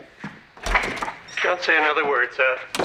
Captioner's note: door opening